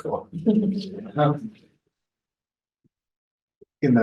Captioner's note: attendees laughing